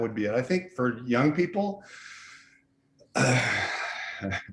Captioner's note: laughs